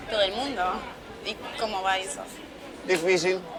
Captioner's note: distant Chatting